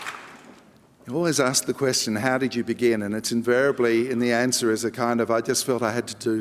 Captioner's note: applause